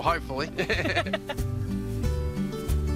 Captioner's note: both laugh